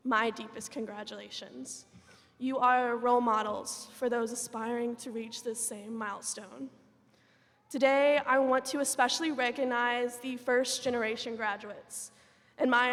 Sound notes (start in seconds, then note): none